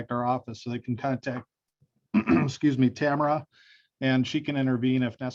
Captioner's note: clears throat